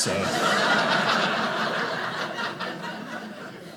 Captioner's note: audience laughing